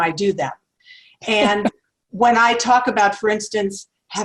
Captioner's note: laugh